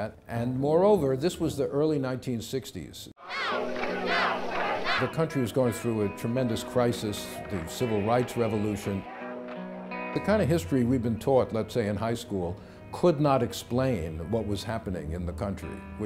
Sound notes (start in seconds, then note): 3.2 crowd chanting